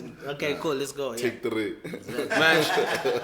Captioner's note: everybody laughs